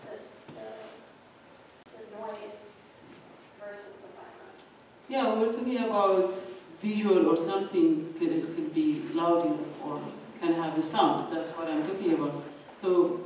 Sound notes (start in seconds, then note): none